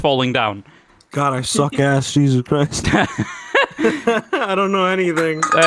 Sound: laughter

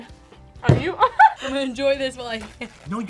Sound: laughs

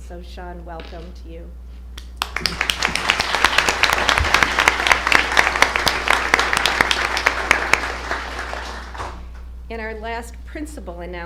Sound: applause

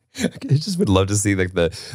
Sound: laughing

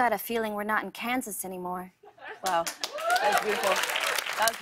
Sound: cheers and applause

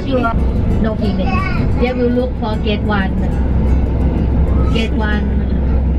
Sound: guide speaking in foreign language

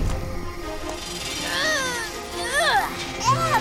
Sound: grunting

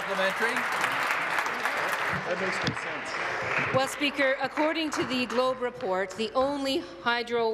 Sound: applause

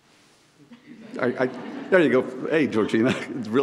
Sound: audience laughs; laughs

